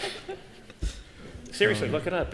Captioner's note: laughter